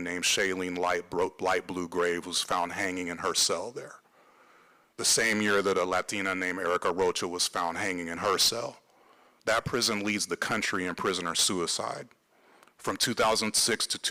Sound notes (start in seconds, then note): none